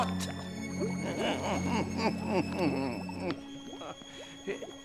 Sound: chuckling

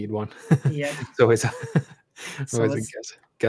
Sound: laughs

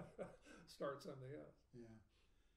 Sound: laughing

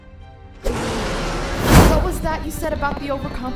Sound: pissed spider monster noises

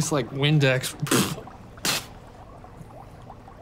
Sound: spitting

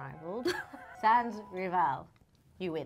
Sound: chuckles

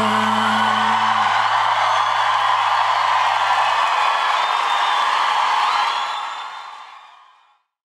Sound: audience cheers

